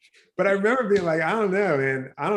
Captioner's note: chuckles; laughs